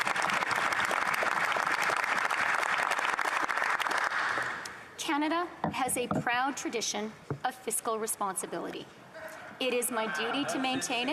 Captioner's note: applause